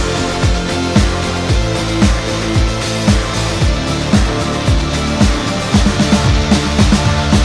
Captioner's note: zzzzooommmmmmmmmmmmmmmmmm